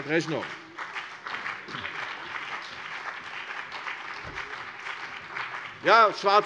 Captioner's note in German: Beifall CDU und BÜNDNIS 90/DIE GRÜNEN